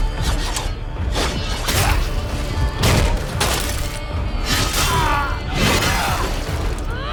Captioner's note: clanging and slicing